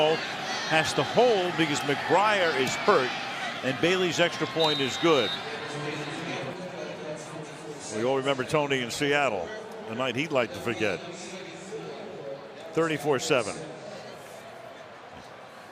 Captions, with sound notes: Now, Romo has to hold because McBriar is hurt. And Bailey's extra point is good. [whistle] [pa announcement] We all remember Tony in Seattle, the night he'd like to forget. 34-7.